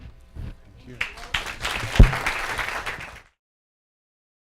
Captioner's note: audience clapping